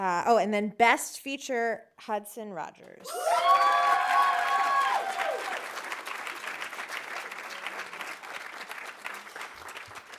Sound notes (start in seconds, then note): 3.0 audience cheering; 3.1 audience applauding